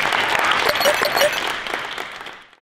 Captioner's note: applause